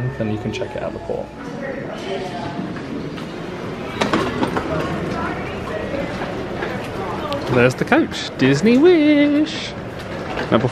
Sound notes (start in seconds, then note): 1.7 crowd chattering; 3.9 bag clattering